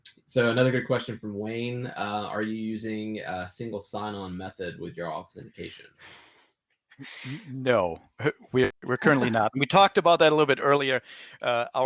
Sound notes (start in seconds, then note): 9.0 laughing